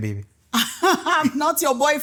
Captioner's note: laughing